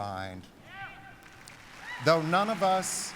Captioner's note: applause